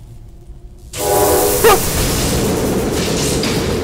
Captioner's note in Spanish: Máquina de vapor